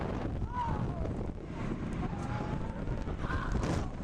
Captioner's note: riders shouting